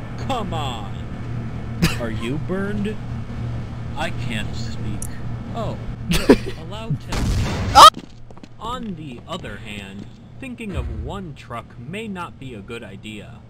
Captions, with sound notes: - "Come on, are you burned?" (laughs) - "I can't speak." - "Oh, yes." - (laughs) - "Allow to--" (explosion) AH! - "On the other hand, "thinking of one truck may not be a good idea."